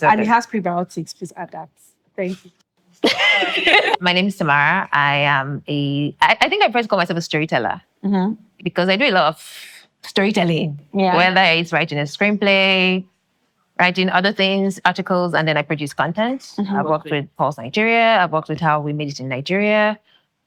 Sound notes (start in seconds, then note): 3.0 laughing